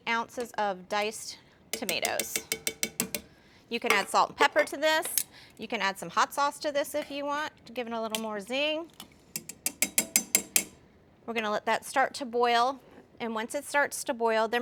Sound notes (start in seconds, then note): 3.7 metal tapping; 11.0 metal clanging